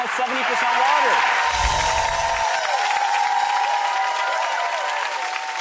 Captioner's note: cheering and applause